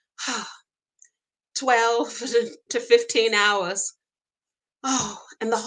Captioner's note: sighs